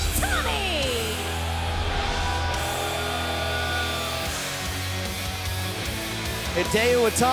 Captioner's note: cheers & applause